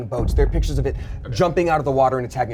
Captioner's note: thump resounds